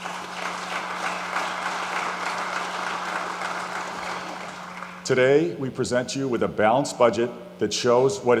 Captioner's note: applause